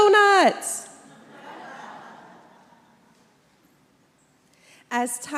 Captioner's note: congregation laughs